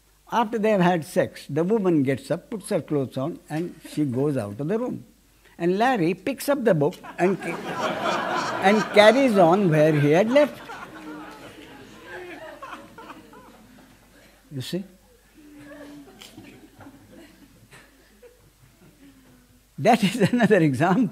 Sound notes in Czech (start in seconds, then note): 10.7 smích